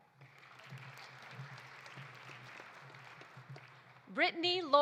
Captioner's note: audience applauding